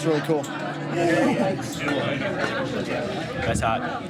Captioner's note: man moaning